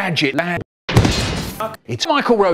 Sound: sign falls over

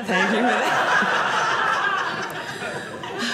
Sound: audience laughing

